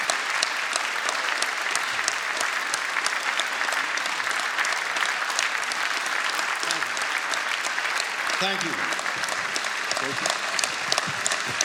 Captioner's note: applause